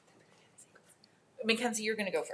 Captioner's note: speaks faintly